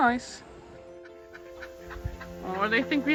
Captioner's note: tranquil music; ducks quacking